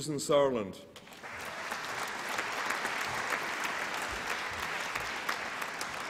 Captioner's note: applause and cheering